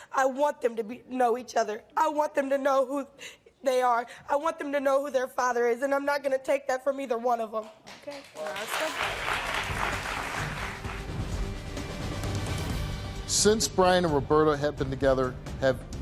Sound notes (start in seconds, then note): 9.3 audience clapping